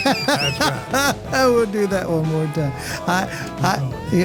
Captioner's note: laughing